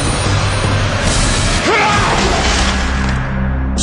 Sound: car glass breaking

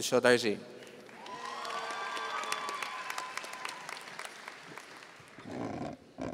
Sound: audience cheering and applauding

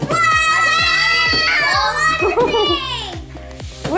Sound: all exclaiming

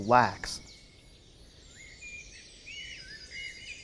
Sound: birds chirping

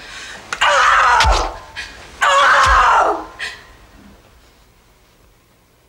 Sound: screaming

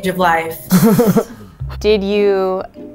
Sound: man laughs

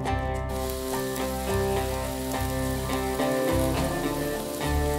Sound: sizzling

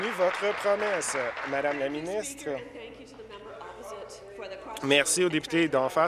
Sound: applause

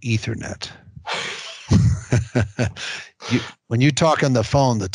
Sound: both laugh

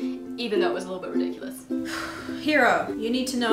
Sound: sigh

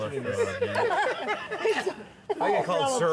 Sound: laughter

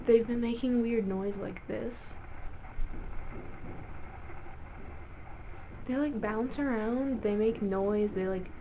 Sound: slight thumping noise

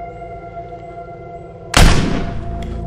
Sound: gunshot

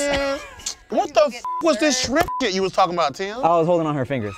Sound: beep

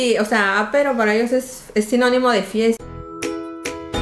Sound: french

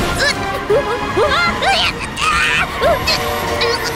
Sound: Tayo shrieks

